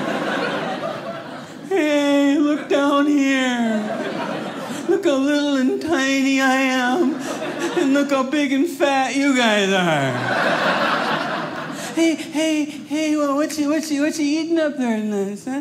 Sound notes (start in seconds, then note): 0.0 audience laughing; 9.8 audience laughing